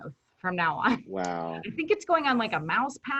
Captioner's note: chuckles